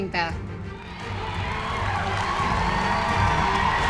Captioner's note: cheers and applause